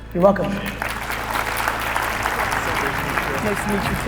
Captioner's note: audience applauding